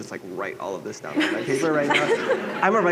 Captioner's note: laughter